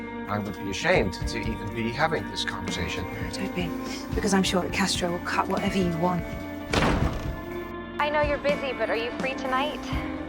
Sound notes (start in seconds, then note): 0.4 voiceover; 6.4 door shuts; 8.2 voiceover